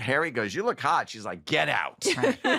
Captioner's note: laughter